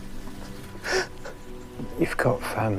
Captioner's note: jeremy sobs